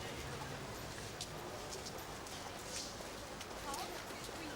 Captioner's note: fires crackling